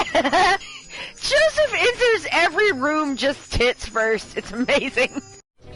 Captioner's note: laughing; laughs